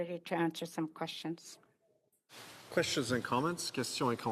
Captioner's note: speaking Indigenous Language